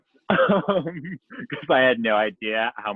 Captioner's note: laughs